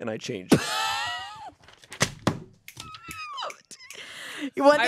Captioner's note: laughs